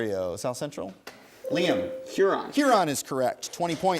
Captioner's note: ding